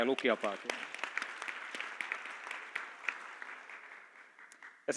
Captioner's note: applause